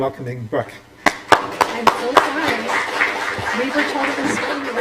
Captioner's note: applause